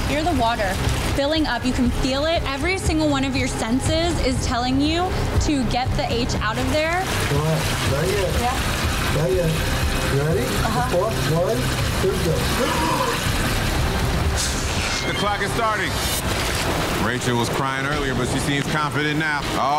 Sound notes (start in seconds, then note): 13.3 inhaling